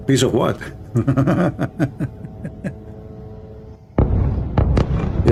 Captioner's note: Ketawa